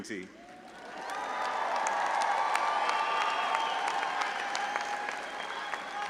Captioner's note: audience applauding and cheering